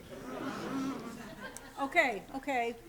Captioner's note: laughter